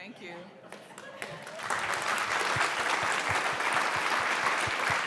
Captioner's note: applause